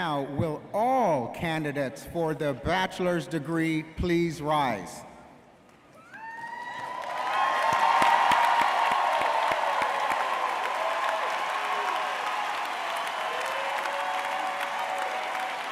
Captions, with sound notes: - Now, will all candidates for the Bachelor's degree please rise. (audience cheering and applauding)